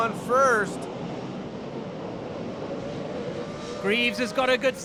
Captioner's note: car engines revving